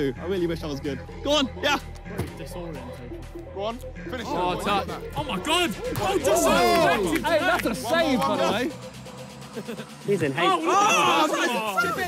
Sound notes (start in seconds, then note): 5.2 players shout; 10.1 players shout